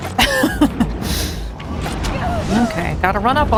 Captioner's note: laughs